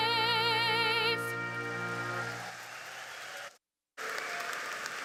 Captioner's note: audience applauding